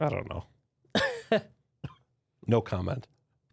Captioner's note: laughs